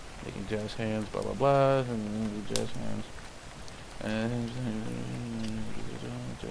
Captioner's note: mumbles